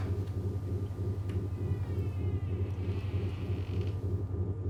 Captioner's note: door creaking